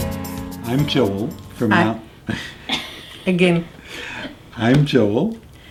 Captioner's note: laugh